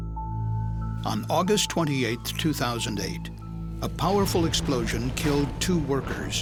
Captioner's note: sound of explosion